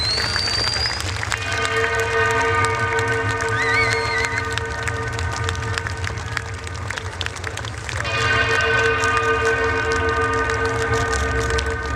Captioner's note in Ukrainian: оплески